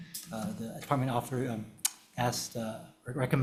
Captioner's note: clicks